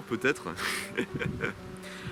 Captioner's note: laughs